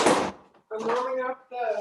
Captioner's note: chair bangs